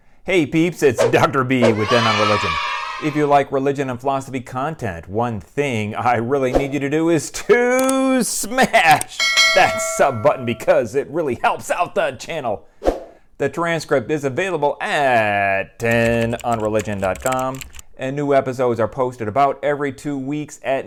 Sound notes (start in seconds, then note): 1.6 kids cheering; 9.1 bell ringing; 15.8 keyborad typing